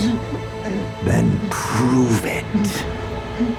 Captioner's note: grunting